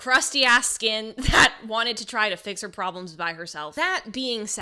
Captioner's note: laughs